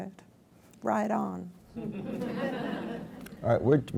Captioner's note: laughs